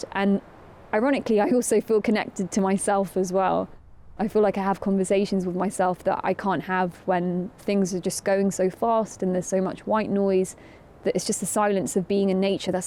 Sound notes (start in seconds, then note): none